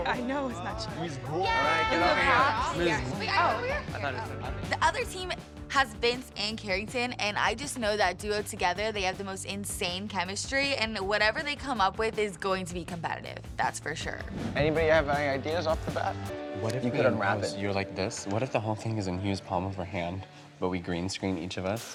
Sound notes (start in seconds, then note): 1.3 overlapping chatter